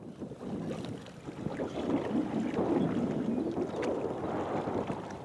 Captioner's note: water splashing